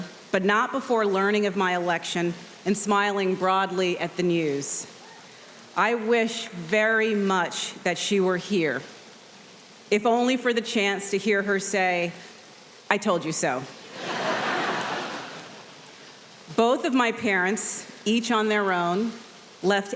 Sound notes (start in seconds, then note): 13.9 audience laughs